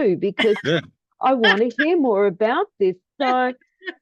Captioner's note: laughing